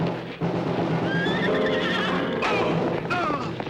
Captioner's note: dramatic orchestral music; horse neighing